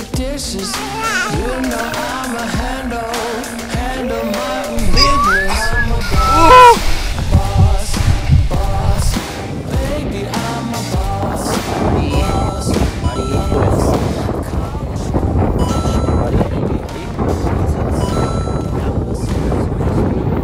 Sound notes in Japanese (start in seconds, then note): 9.5 ここから風の音注意です💦